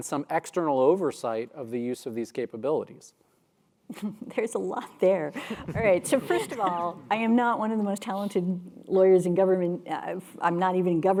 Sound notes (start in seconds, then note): 3.8 laugh